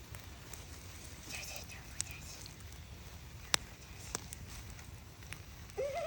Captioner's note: wispers; giggles